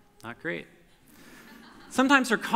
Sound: audience laughter

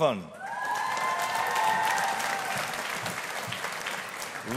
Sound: audience applauding

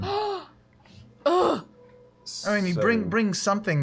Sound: groans

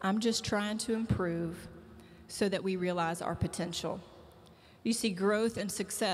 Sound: none

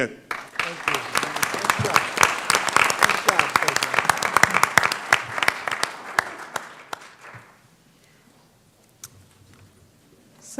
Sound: applause

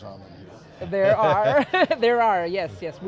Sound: laughs

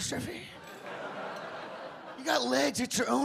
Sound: audience laugh

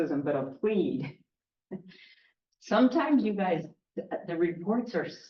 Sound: chuckle

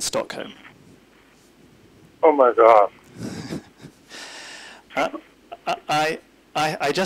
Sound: laughs

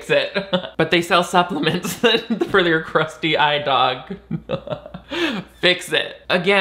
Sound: laugh

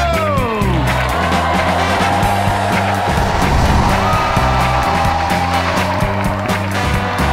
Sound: crowd cheering; upbeat music

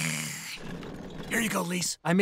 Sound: whispering

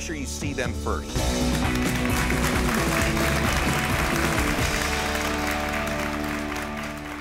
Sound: upbeat music; audience cheering

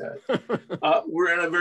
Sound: laughter

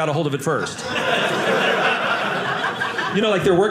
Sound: audience laughing

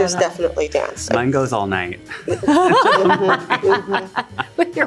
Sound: everyone laughs

